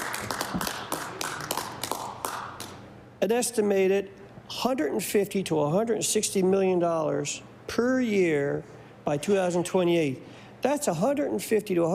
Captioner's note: applause